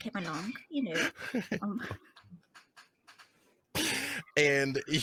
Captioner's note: laughing